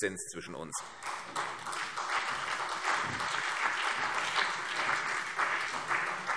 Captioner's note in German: Beifall CDU und BÜNDNIS 90/DIE GRÜNEN